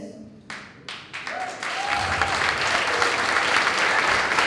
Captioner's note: applause